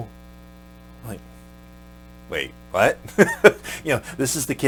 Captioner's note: laughs